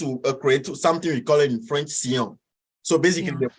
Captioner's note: speaks in foreign language